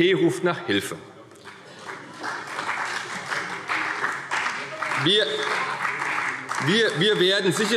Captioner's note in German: Beifall